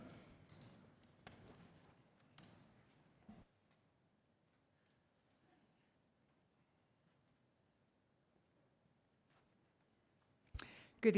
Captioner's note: quiet room